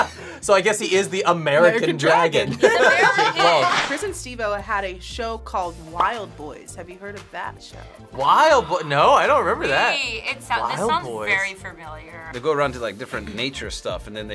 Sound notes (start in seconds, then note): 0.0 laughs; 2.5 laughs; 9.7 gasps